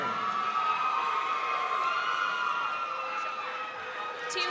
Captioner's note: crowd cheering